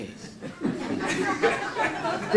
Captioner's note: laughing